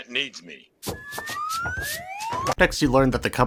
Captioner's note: assorted sfx